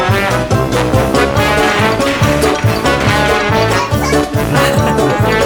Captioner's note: laughs